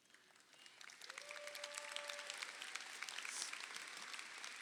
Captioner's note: crowd applauding